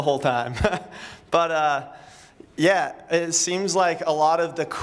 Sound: laughter

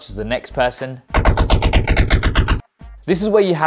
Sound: rapid popping

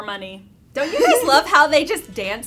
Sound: laughter

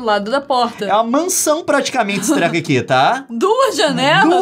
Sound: laughing

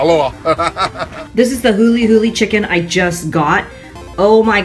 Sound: laughs; laughs again

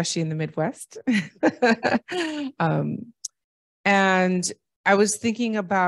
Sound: laughter

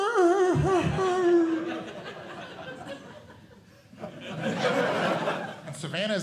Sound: audience Laughing

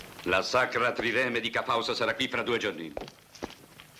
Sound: lions growling

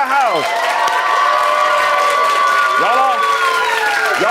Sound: audience cheers

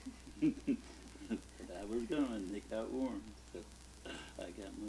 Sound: chuckles

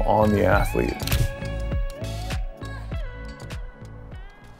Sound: camera shutter

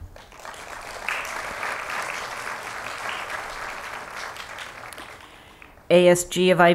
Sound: applause

